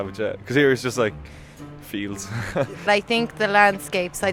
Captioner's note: laughs